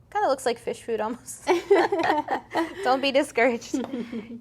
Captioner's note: both laughing